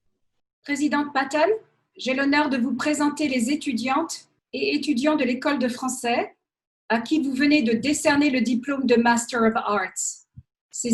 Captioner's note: speaks in French